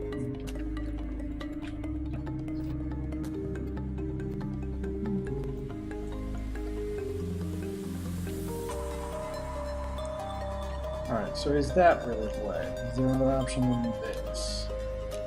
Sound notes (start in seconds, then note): 2.9 humming along